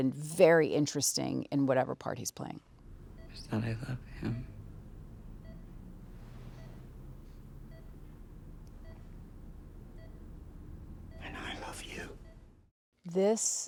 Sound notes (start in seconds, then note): 4.8 machine beeping